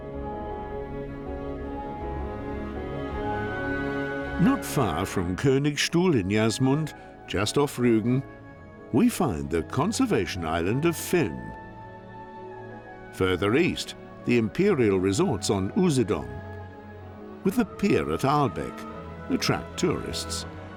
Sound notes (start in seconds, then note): none